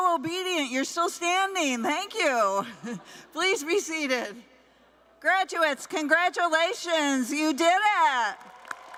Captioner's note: cheers and applause